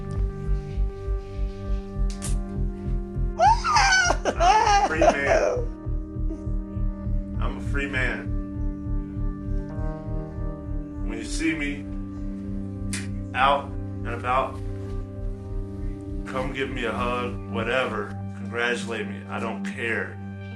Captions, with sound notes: (snips ankle bracelet) (cheering) I'm a free man. I'm a free man. When you see me out and about ... come give me a hug, whatever, congratulate me, I don't care.